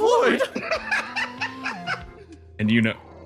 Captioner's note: laugh